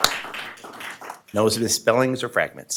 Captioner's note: applause